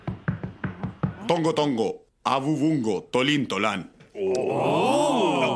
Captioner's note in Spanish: speaking "Silurianese"